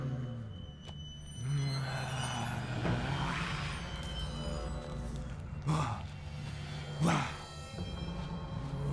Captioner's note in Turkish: Bağırma sesi